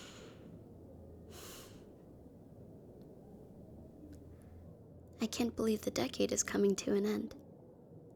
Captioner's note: sighs